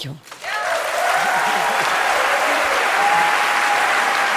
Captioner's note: Applause; 掌聲